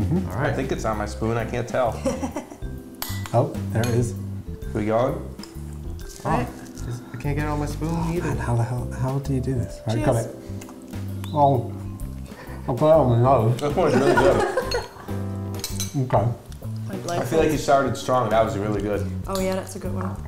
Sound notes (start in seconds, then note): 1.9 laughs; 6.4 ice cream eating noises; 10.4 ice cream eating sounds; 12.7 with mouth full; 13.8 laughter